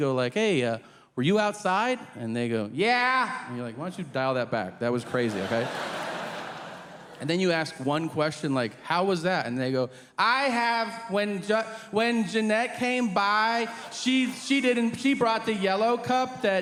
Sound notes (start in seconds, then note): 5.0 audience laughing